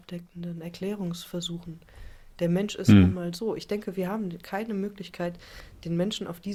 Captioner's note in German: räuspern